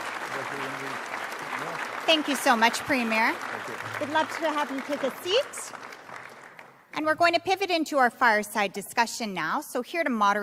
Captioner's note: applause